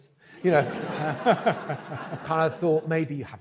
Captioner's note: audience laughs